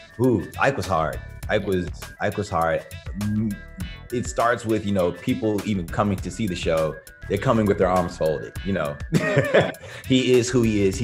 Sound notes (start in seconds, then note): 9.1 laughs